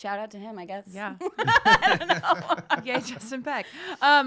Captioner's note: laughing